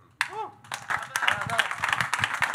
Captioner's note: audience clapping; audience cheering